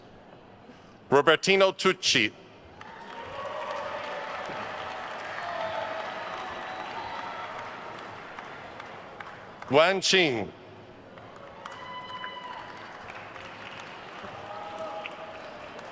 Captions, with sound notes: Robertino Tucci. (attendees cheering and applauding) Wan Qing. (attendees cheering and applauding)